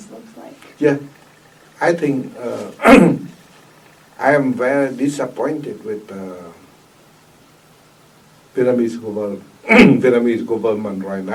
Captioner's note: coughs; clears throat